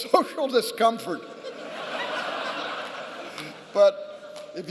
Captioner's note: laughter